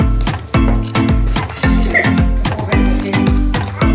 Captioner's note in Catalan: riure sotil